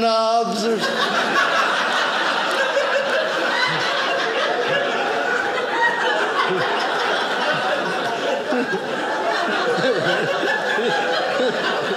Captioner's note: audience laughing